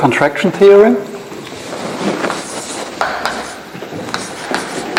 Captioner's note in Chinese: 页面沙沙作响